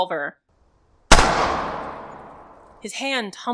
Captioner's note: isolated, amplified distinct, steady gunfire for the cracks